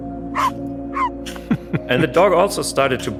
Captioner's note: dog barks